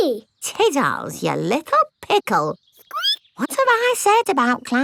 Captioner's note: squeaks